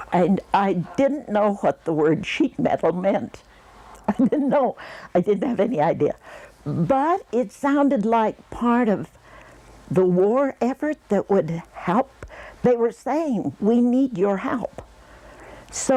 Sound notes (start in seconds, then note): 4.0 laughing